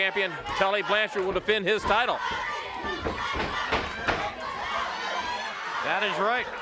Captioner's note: footsteps plodding